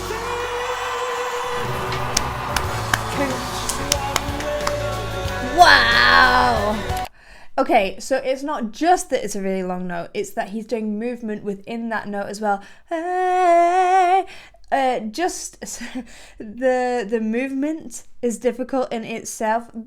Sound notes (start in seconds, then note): 1.8 hands clapping; 12.8 vocalizes